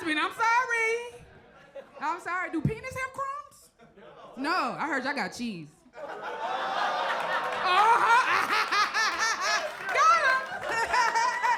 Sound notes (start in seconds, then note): 6.0 audience laughs; 6.0 Pressure K laughs; 10.8 laughs